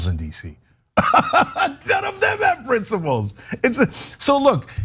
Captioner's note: laugh